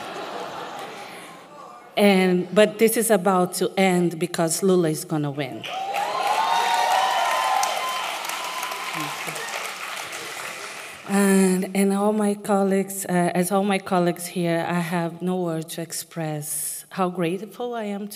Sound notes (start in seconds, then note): 10.2 applause